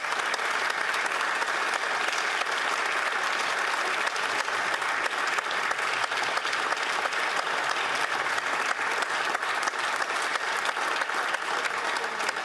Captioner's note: applause